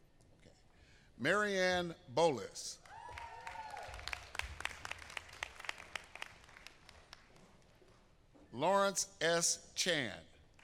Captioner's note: applause